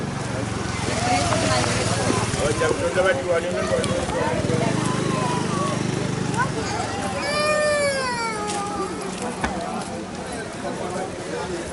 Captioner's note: baby crying